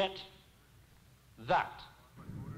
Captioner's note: radio transmission; engine roaring